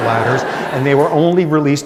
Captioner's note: laughter